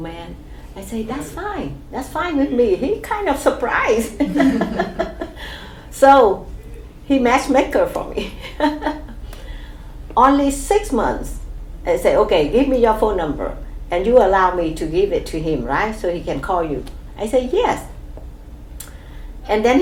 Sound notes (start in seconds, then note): 4.1 laugh; 8.0 laughs